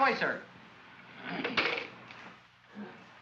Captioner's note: phone clatters down